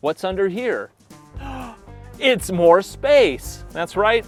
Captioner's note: gasps